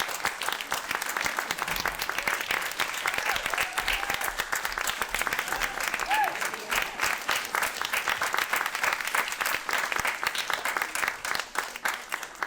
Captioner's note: audience exuberantly applauding